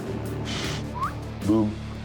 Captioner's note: whistle